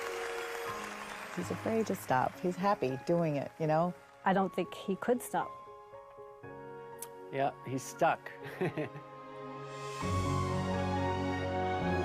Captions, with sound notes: He's afraid to stop. He's happy doing it, you know? I don't think he could stop. Yup, he's stuck. (CHUCKLING)